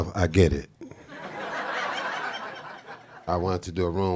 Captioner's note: audience laughing